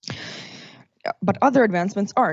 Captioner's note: exhales